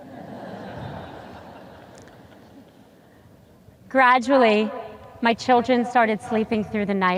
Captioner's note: audience laughs